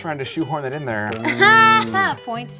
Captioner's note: laughs